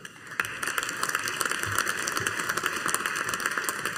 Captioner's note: audience applauding